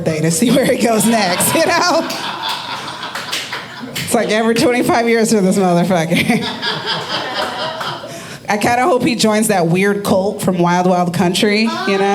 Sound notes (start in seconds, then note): 2.4 audience laughing